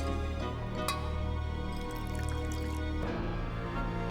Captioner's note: liquid pouring